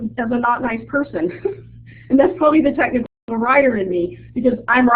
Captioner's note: chuckles